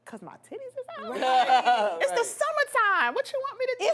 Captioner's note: laughs